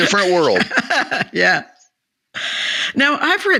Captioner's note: laughs